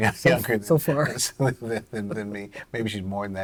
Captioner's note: laughter